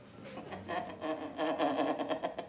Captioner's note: laughing